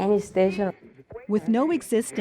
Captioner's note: radio static